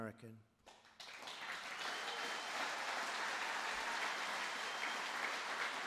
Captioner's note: applause